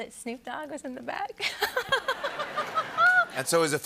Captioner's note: laughter